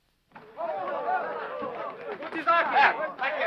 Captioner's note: men chattering